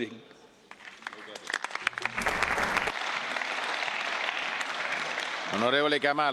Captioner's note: clapping